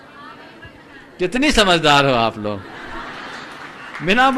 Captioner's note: laughter in background